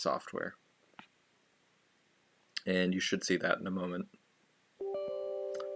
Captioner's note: Windows notification chime